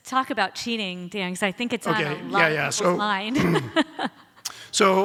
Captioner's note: laughs